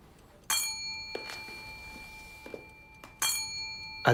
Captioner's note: clock chimes